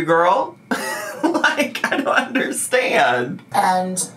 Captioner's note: laughs